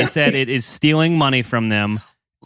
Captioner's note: laughs